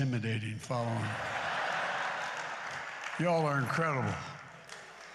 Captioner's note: laughter and applause